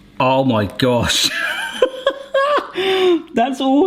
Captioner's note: light laughter